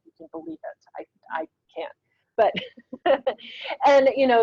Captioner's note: laughs